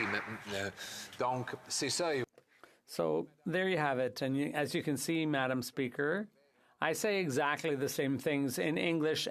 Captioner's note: applause